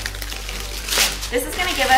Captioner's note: parchment crinkles